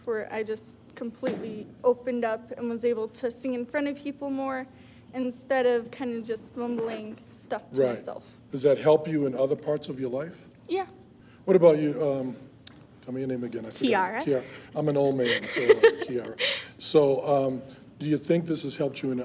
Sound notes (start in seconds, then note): 15.0 giggles